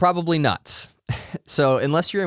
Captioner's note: laughs